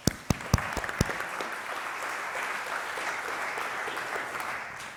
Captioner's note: audience clapping